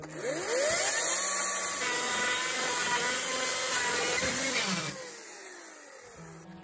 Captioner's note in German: Geräusch einer elektrischen Kettensäge